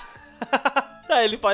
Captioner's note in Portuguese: risos